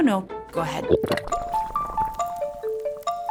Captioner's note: water sloshing; mysterious music